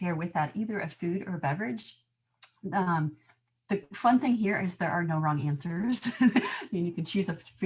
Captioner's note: laughter